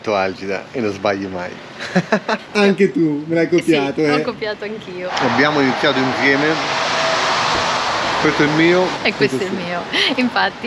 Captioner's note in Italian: Risate